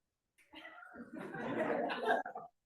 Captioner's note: laughter